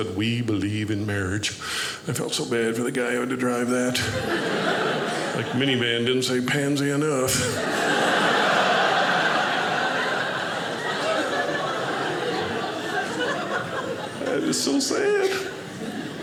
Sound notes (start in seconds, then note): 7.2 audience laughing